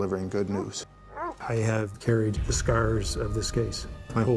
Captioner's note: barking